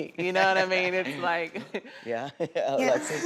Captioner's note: all laugh